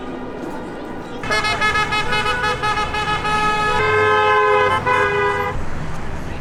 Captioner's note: loud honks